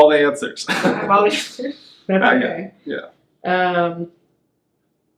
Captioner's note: laughing